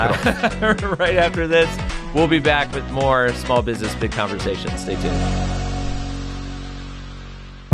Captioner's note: laugh